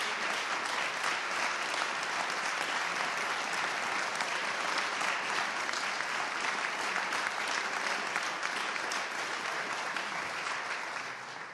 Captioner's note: applause